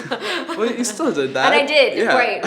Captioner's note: laughing